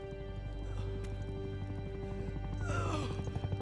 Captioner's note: clanking of gear; grunting